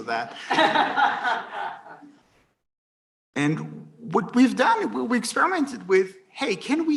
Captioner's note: laughter